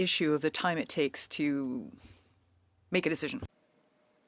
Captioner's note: speaking French